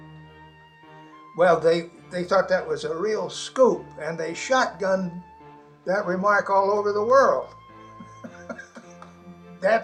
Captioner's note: laughs